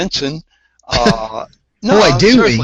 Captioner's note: laugh